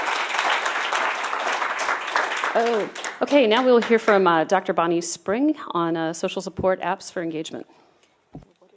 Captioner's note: applause